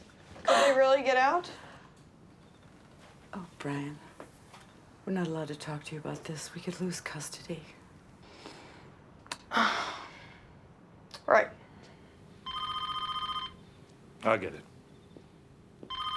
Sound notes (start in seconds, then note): 8.2 breathes deeply; 12.3 telephone rings